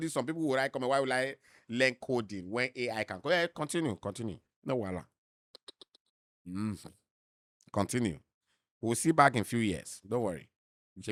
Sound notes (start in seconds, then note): 5.5 clicks tongue